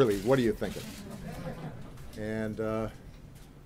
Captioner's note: laughter